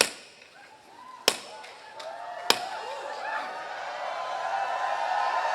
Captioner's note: cheering